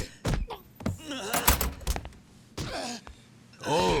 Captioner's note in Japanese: うめき声